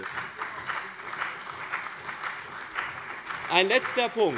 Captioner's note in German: Beifall bei dem BÜNDNIS 90/DIE GRÜNEN und der CDU